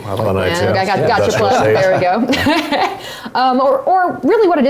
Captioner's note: laugh